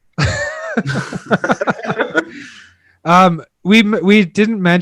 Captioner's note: hosts laughing